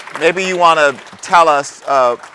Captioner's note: applause